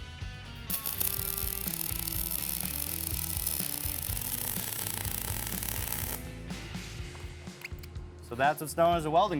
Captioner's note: spark sounds